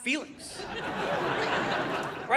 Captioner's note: audience laughing